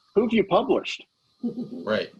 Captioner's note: laughing